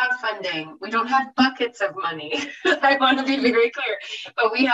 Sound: laughs

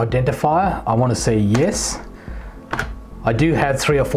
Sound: keyboard typing sound

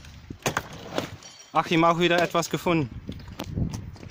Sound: speaks in German

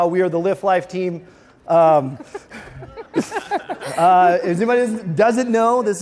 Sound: light giggling

